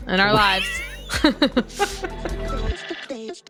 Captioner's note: laughter; upbeat music playing